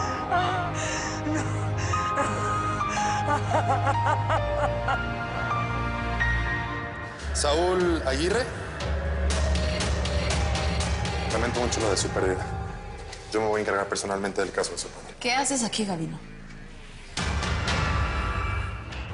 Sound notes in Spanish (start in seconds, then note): 2.5 Sollozos